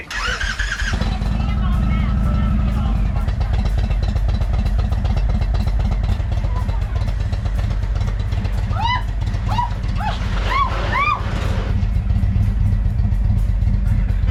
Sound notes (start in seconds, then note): 0.2 motorbike roaring; 9.9 screams; 12.3 motorbike roaring continues